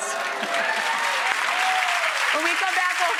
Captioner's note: clapping